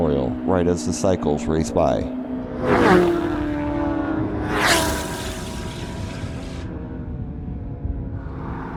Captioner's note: racing cycle sounds